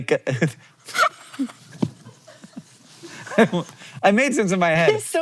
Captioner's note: Maya laughing; crew laughing